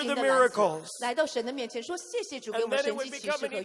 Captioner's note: interpreter speaking in foreign language